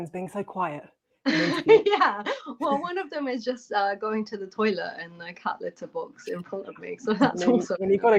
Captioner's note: laughter